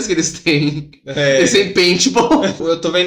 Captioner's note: laughing